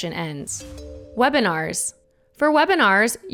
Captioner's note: slide chiming